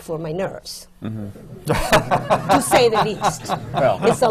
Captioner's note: laughter